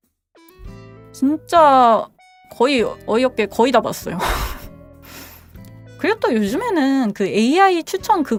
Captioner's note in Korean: 콧방귀